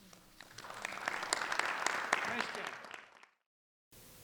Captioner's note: crowd applauding